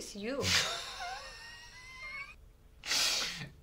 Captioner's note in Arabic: يضحك